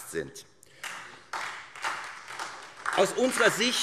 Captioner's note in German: Beifall SPD